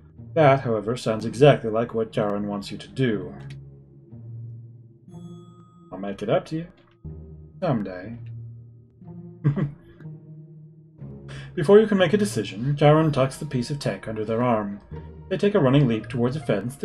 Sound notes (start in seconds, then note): 9.4 chuckles